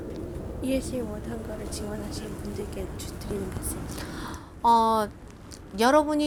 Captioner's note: translator speaking in foreign language; speaking in foreign language